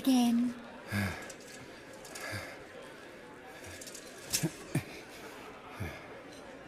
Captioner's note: breathing slows